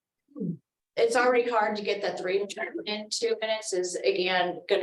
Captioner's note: audio interference